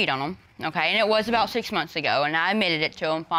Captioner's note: none